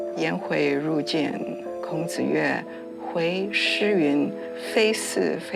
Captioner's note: hablan un idioma extranjero